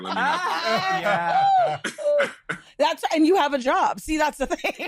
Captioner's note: laughter